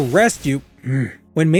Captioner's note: frustrated sigh